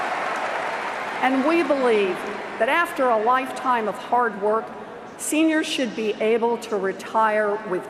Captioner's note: cheers and Applause